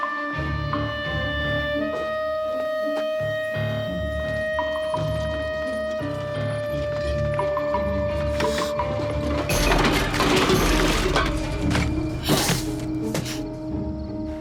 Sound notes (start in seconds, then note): 8.4 gasps; 9.7 clattering